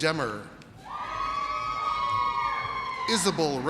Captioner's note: audience cheers